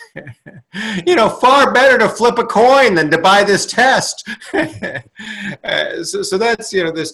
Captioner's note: laughs; laughs